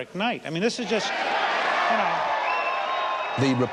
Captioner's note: applause and cheers